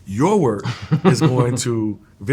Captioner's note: chuckles